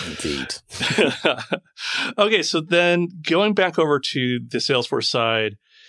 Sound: laughing

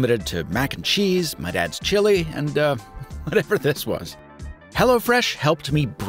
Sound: laughs

